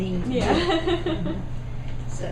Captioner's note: laughs